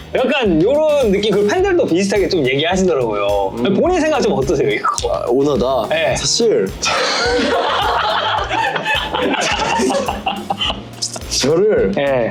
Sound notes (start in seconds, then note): 6.8 exasperated Laugh